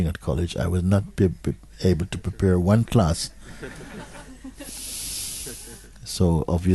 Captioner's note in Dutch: gelach